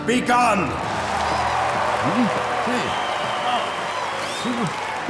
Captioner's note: cheering